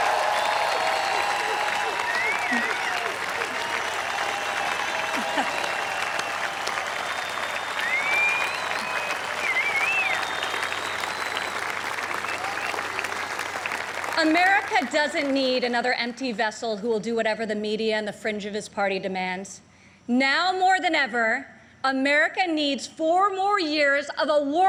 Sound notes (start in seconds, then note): 4.6 applause